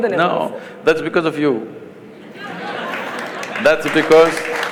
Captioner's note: laughter/Applause